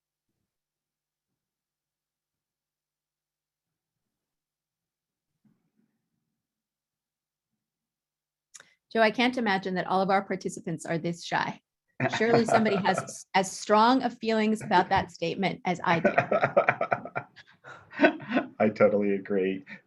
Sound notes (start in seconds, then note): 3.7 no audible dialogue; 15.8 laughter